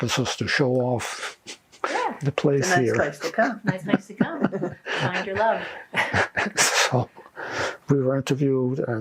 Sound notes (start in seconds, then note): 4.5 laughing